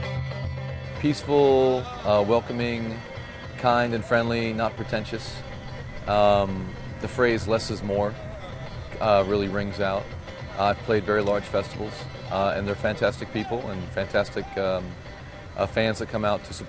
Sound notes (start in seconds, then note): 1.7 voiceover